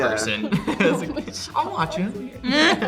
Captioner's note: laugh